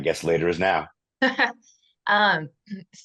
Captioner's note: laughs